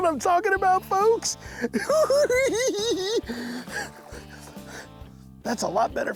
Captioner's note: giggling